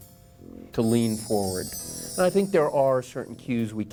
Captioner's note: bells chiming